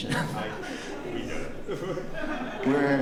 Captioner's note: laughter